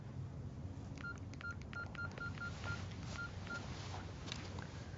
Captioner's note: beeping